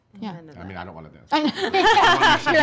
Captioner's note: laughing